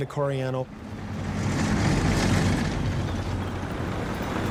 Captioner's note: tanks roaring